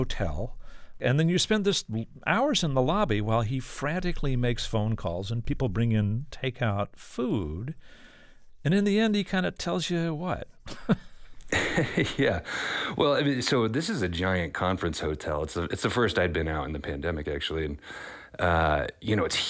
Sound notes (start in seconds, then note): 10.6 laughter